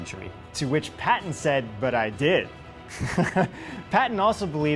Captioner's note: laughs